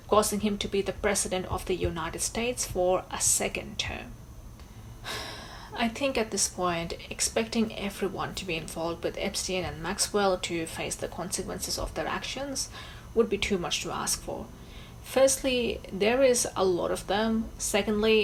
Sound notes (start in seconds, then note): 5.0 sighs